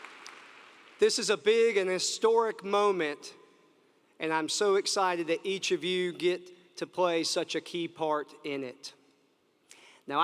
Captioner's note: applause